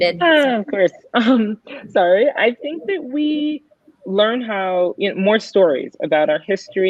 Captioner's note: chuckles